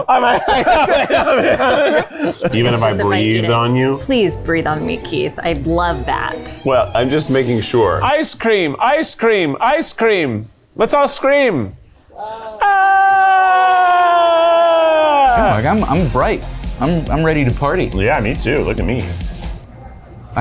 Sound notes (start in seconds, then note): 0.0 both laughing; 12.1 all unenthusiastically screaming